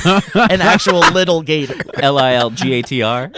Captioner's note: laughing